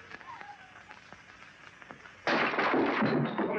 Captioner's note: glass clatters